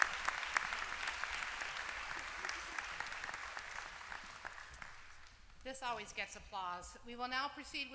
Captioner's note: applause